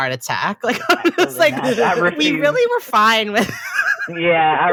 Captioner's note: laughs